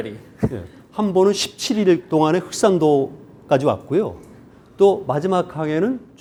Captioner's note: speaking in Korean